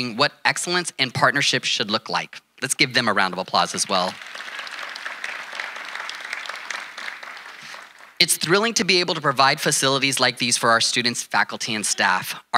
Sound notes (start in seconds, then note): 3.8 audience applauding